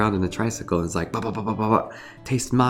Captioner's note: imitates bubbles popping